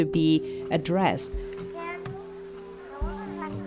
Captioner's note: classroom ambience